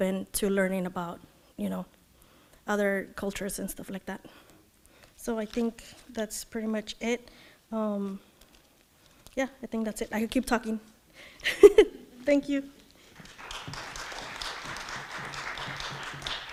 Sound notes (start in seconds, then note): 11.8 laughs; 13.1 audience clapping